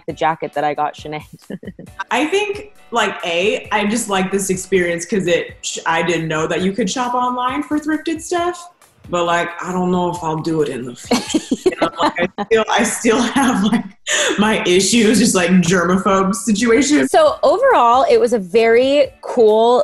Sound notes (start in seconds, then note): 1.3 laughs; 11.0 laughs